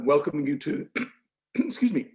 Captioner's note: clears throat